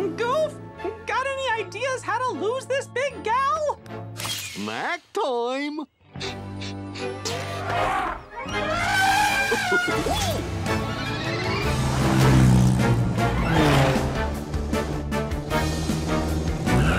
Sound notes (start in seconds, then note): 6.3 sniffing; 7.3 trumpeting; 9.3 chuckling